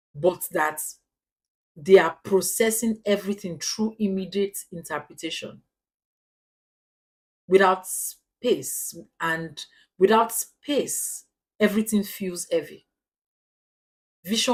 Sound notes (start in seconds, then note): 6.2 paause; 11.1 paause